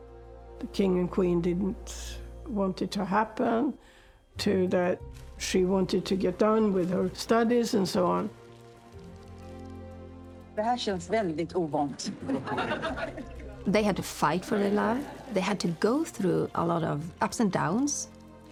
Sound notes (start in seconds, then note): 10.6 speaking in foreign language; 11.8 crowd and laughing